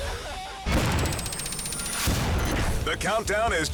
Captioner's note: countdown squeals